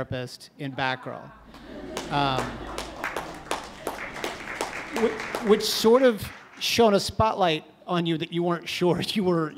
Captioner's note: audience laughs and claps